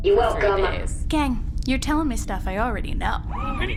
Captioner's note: sarcastically